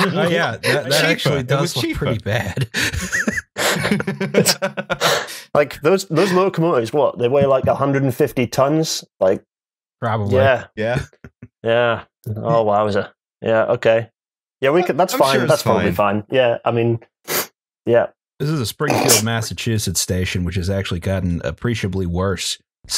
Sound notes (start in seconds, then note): 2.3 laughter; 17.3 sniffs